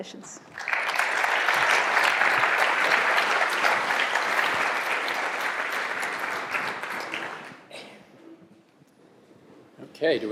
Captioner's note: applause